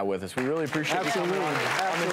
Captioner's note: audience applause